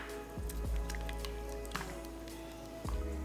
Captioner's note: sound of mixing